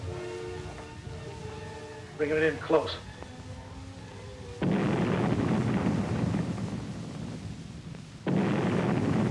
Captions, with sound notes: Bring it in close. (explosions booming)